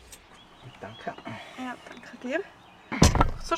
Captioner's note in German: auf Schweizerdeutsch